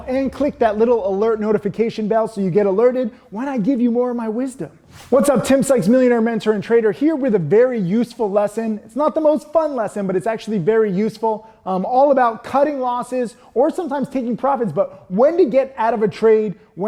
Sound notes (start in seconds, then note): 5.0 animation whooshes